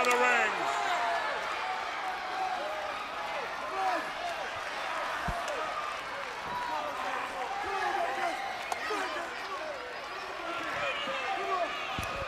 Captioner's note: crowd chatter